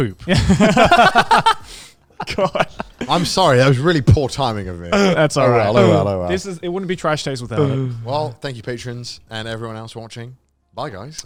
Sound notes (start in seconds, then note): 1.9 laughing